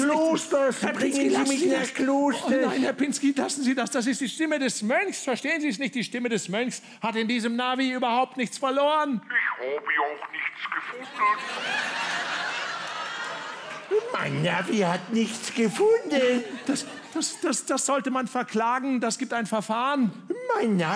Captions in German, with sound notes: Nein, Herr Pinski! - Klosters! Bringen Sie mich nach Klosters! - Oh nein, Herr Pinski! Lassen Sie das! Das ist die Stimme des Mönchs. Er hat in diesem Navi nichts verloren. (Computerstimme) Ich habe auch nichts gefunden. * Lachen * Mein Navi hat nichts gefunden. Das sollte man verklagen. Das gibt ein Verfahren!